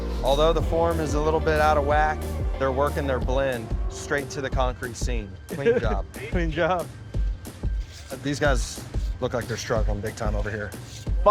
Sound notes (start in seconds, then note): 5.5 chuckles; 7.6 pat